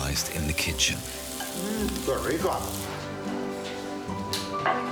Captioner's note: speaking foreign language